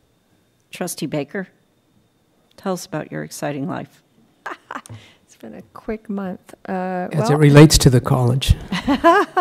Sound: laughter

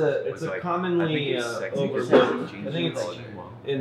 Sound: mindless bar chatter

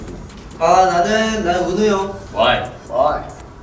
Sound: speaking Korean

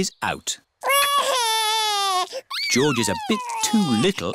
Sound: crying

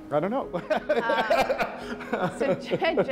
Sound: laughs

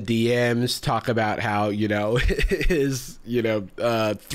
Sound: laughs

